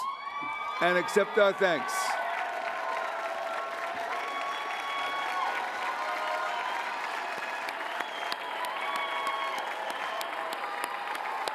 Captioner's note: applause